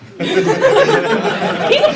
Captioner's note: laughter